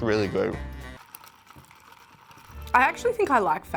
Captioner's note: shakes drink